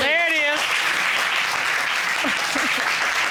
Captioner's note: applause